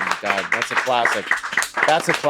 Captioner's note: hosts clapping loudly